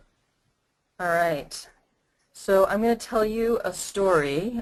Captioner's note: voiceover